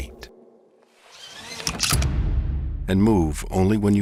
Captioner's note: seatbelt clicks